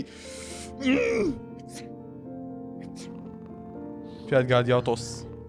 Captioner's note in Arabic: عطس